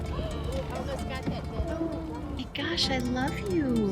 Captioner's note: women gasp